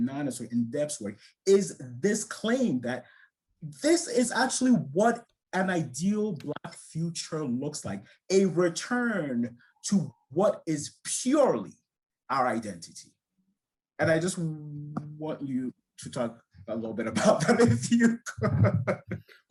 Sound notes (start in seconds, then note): 17.1 laughing